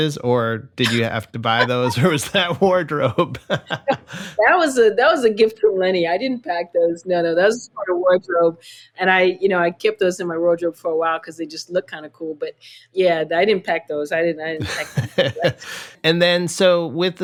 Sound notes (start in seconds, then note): 1.4 laughter; 17.1 laughter